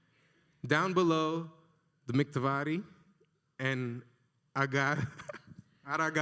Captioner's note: laughs